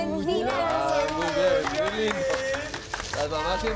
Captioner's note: applause